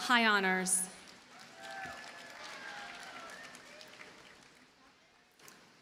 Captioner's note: audience cheers and applauds